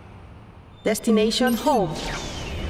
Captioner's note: robot voice